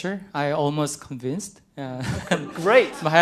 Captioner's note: laughter